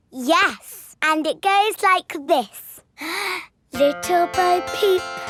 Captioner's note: inhales